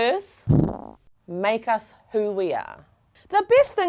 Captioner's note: farting effect